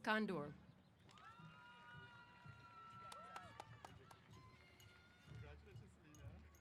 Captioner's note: applause & Cheers